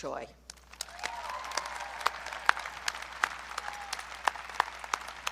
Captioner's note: audience cheering